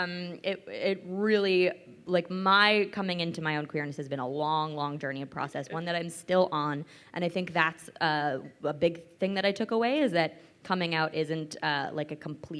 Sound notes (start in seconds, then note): none